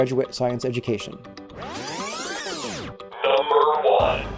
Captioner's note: electronic zipping